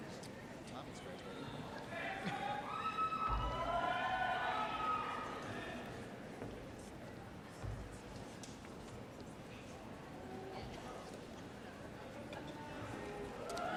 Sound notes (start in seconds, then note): 2.0 audience members shouting and cheering